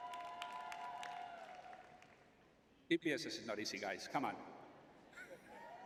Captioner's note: cheering